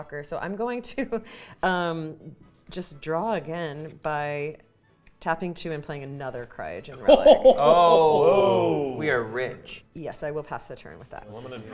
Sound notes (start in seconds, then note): 7.0 players exclaiming